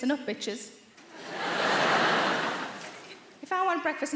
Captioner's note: audience laughing